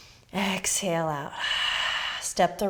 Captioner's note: exhaling